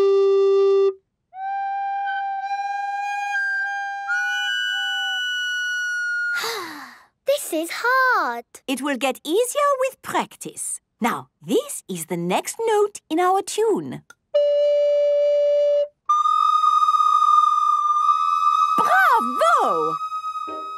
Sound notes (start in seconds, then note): 3.7 off-key; 6.3 sighing; 18.8 school bell ringing